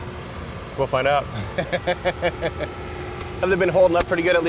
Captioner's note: laughs